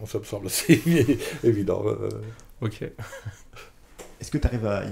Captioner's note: laughs